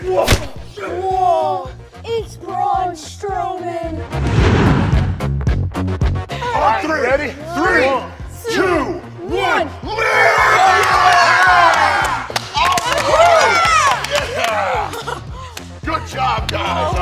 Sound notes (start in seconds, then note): 10.7 kids and Braun grunt; 12.1 cheering